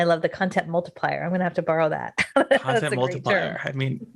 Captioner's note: laughs